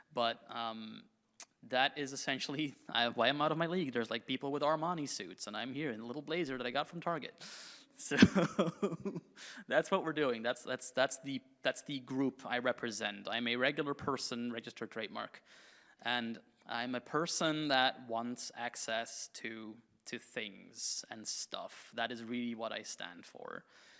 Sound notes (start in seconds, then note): 8.2 laughs